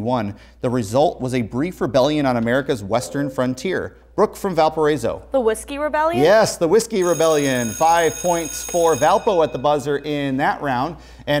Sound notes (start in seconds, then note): 3.9 beeping; 7.0 ringing